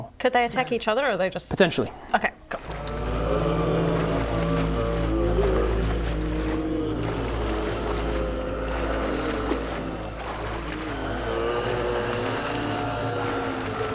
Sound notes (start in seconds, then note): 3.7 undead moans; 9.3 sploosh